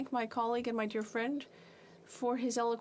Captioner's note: speaking French